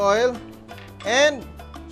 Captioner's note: clang